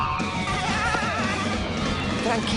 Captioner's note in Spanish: risas de Bob Esponja